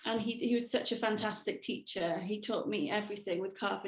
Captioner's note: none